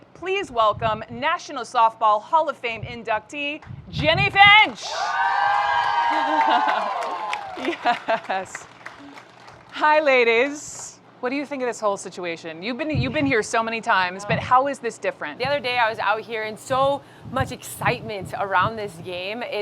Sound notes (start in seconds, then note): 4.6 crowd cheering; 7.5 laughs